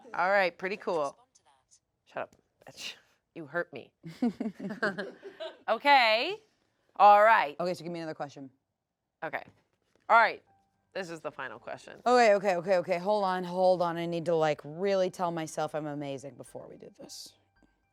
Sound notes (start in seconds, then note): 4.0 laugh